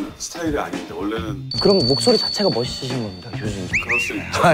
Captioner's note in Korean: 딸랑딸랑